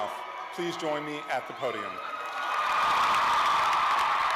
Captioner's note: cheers and applause